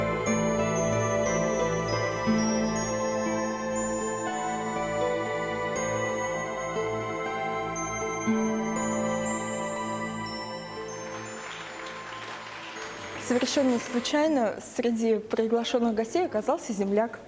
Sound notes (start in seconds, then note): 2.1 applause